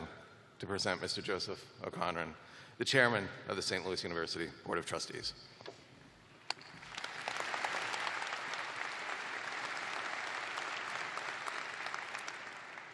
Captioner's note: applause